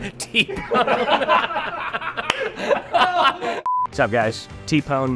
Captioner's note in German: lachen